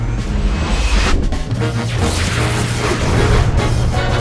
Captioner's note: robot whirs